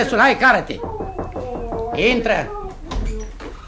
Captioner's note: knocks on the door